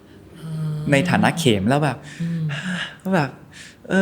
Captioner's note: sigh